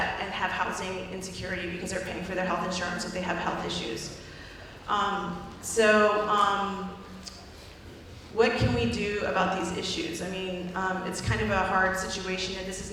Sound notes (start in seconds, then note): none